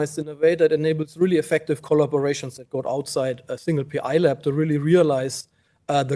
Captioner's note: none